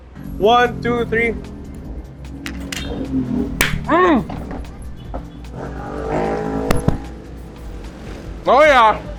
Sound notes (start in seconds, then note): 3.4 claps and grunts